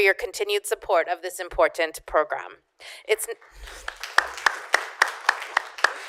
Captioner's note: applause